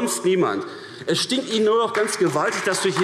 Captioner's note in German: Beifall